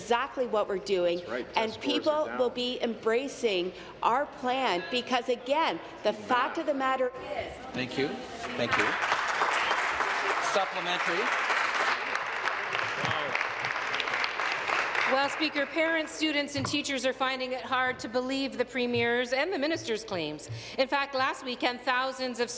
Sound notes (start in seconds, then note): 12.9 applause